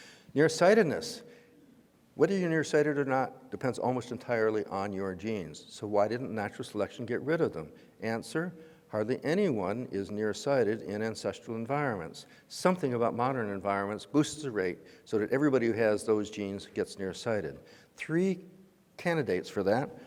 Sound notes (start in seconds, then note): none